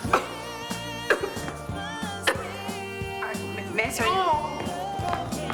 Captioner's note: judge coughing; upbeat music; upbeat music